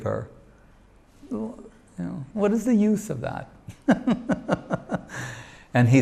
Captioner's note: chuckles